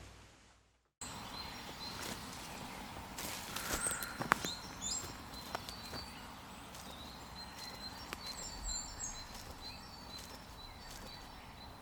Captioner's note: bird noises